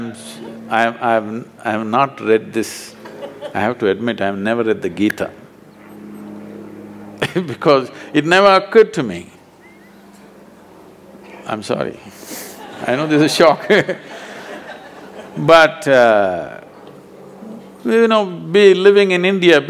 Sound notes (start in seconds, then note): 7.2 laughs; 12.1 few Laugh